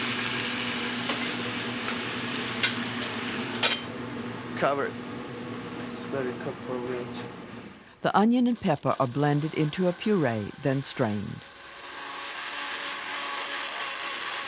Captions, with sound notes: Cover it. Let it cook for a minute. - [Voiceover] The onion and pepper are blended into a puree, then strained. (blender whirs)